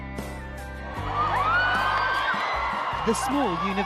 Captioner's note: crowd cheering; voiceover